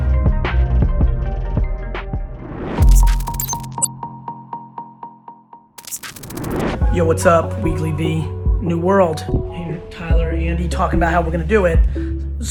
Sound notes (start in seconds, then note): 0.3 steady hip-hop music; 2.8 digital beeping